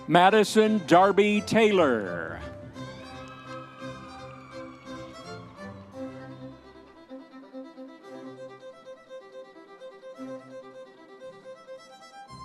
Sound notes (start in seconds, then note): 2.8 audience members cheering; 7.6 classical orchestral music continues